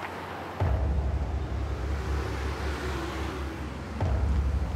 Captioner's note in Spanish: sonido del motor